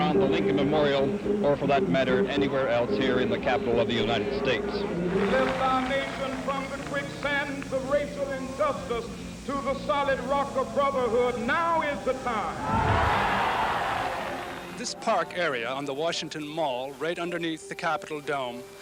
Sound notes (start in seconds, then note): 12.5 cheering